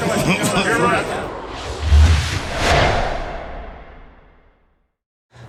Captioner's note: intense whooshing; laughs